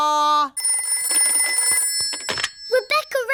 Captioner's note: phone rings